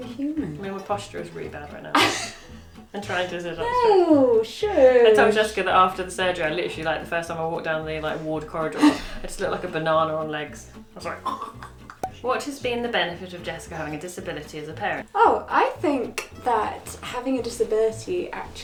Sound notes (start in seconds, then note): 2.0 laughs; 11.2 choking